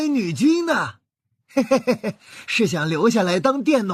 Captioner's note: chuckles